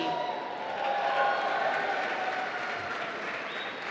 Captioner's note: applause